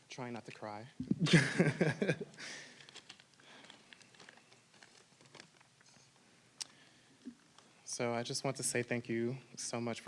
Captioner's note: laugh